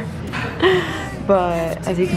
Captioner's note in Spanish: se ríe